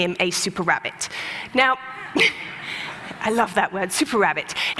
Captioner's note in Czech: Smích